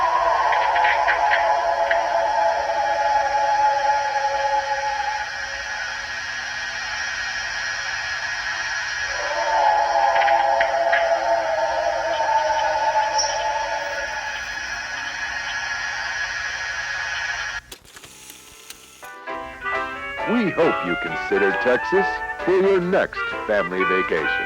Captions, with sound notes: (eerie animal howling continues) (eerie animal howling continues) (upbeat music) We hope you consider Texas for your next family vacation.